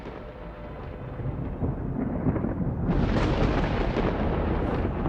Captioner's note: thunderclap